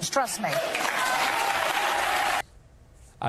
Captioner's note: crowd cheers